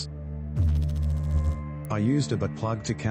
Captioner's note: electrical noise